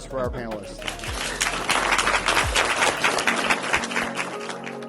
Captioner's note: applause